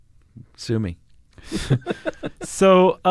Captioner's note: chuckles